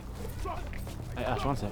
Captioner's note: boys arguing